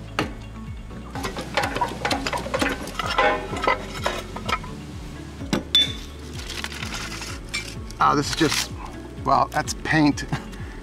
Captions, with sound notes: (tool hammering) (wheel rolling) Ah, this is just, well, that's paint.